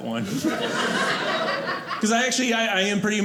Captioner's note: audience laughing